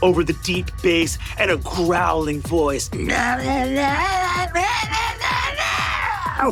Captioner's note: growling excitedly